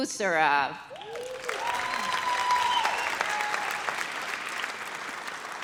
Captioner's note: audience cheers